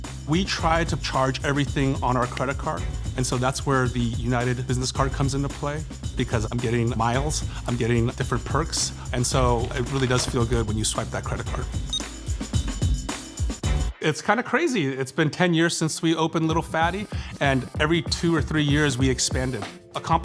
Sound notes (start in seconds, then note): 11.8 card reader beeping